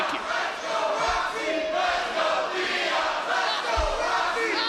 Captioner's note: audience chanting